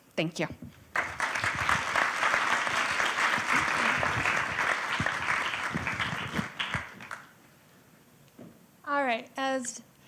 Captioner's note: applause